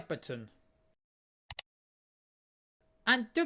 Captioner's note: click sound